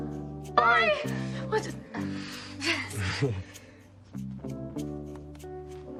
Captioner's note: stammering